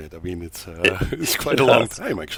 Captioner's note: laughs